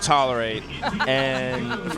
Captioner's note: laughter